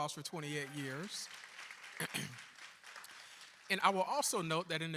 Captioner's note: applause